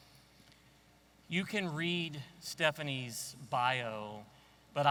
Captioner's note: none